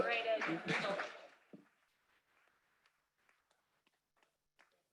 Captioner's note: applause